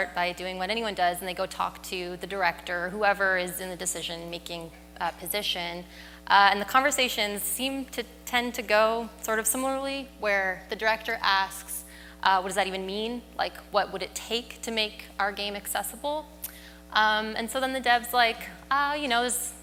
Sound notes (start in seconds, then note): none